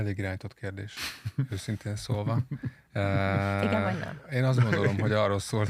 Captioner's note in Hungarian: nevetés